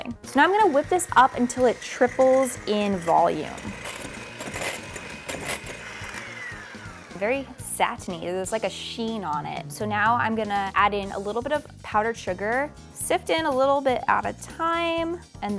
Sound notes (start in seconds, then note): 4.1 mixer whirring